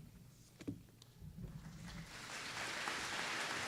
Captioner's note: applause